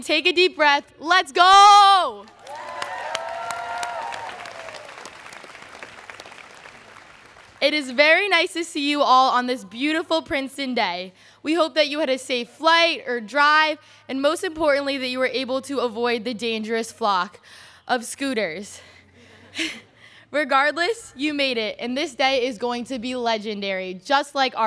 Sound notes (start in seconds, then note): 2.2 students cheering